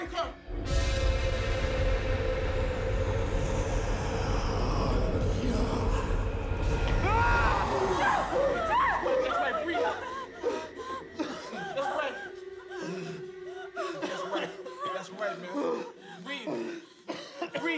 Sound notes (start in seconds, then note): 0.2 ominous music; 6.9 Jeff screaming